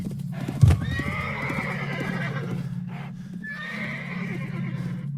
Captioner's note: there is a crash of a falling body; sounds of a neighing horse walking away; someone breathes quickly; quick breath